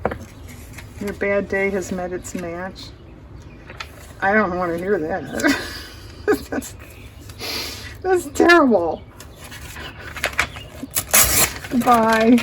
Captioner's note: laughs